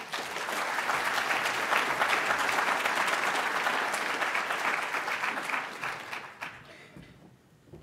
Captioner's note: audience applauds